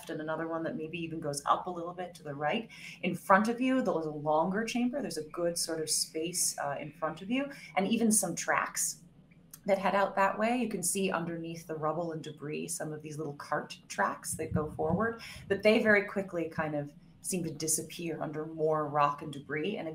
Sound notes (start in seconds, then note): none